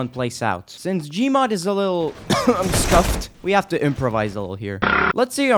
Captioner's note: cough